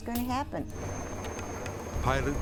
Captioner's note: helicopter rustling